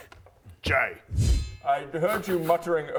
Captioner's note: whoosh